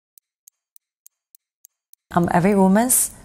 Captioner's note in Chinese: 滴答作响的声音